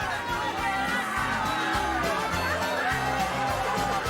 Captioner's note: Charlando, riendo